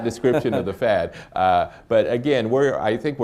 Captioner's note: laughs